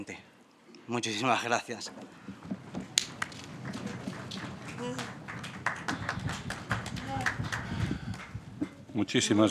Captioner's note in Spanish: Aplausos